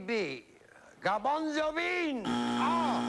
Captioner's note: buzzer